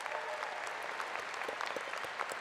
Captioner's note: applause